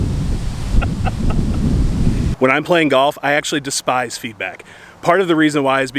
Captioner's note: all laughing